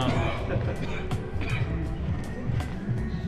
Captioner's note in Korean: 둘 다 그저 웃음만